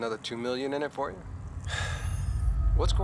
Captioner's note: labored sigh